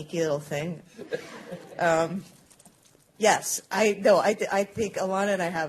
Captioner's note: laughter